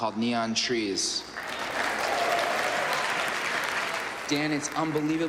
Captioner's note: Aplausos, elogios